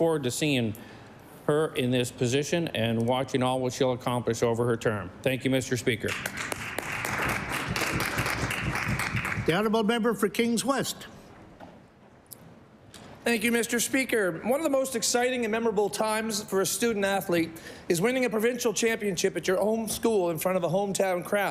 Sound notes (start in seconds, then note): 9.9 applause